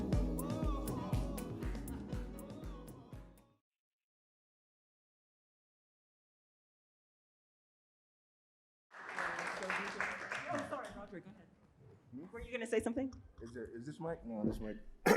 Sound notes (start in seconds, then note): 8.9 audience clapping